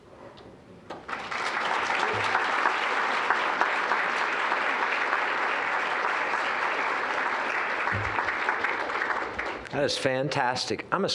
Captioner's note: applause